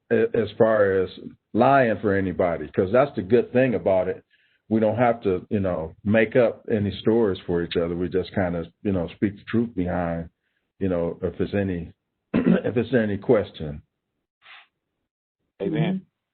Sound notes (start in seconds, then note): 12.3 clearing throat